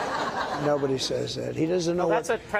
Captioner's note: laughter